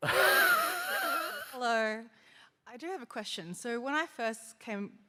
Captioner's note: laughter